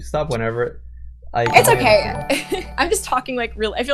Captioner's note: laughs